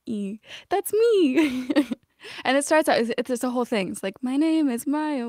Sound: laughter

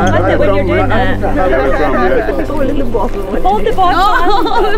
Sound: chatter

